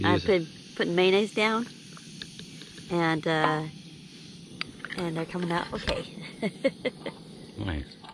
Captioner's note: laughing